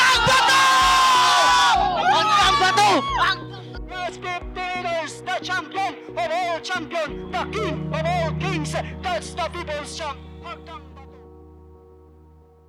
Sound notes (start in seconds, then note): 2.0 shouting; 4.1 commentator speaking